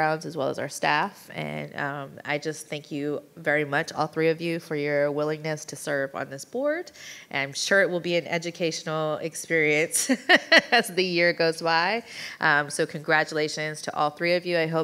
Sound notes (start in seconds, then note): 10.2 laughing